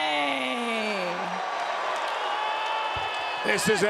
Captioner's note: fans clamoring